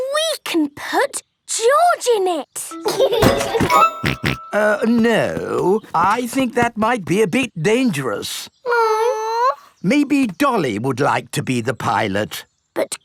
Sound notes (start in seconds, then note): 4.0 laughs and snorts